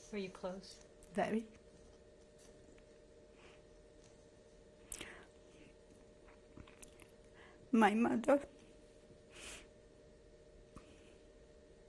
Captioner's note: pauses for 6 seconds